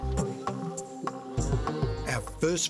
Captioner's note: cow moos